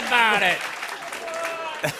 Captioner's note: laughter